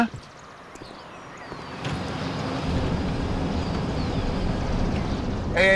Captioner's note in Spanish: Ruido de un vehículo